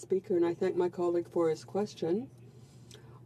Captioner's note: speaking French